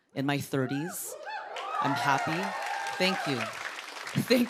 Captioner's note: cheers and applause